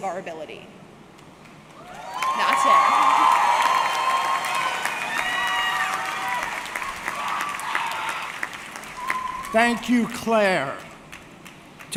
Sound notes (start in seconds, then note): 4.3 audience cheering; 5.3 audience clapping